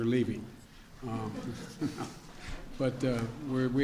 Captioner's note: laughter